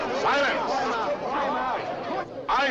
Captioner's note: cries continue